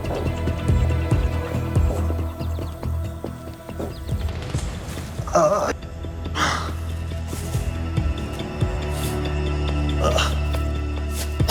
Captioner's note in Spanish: Quejidos